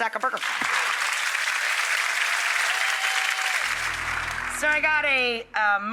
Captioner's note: audience applause